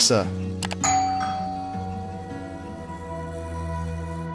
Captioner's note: doorbell chiming